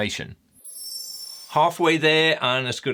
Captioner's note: screen twinkling